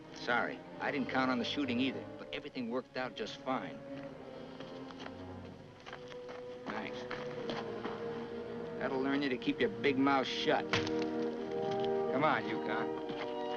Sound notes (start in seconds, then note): 10.7 wet smack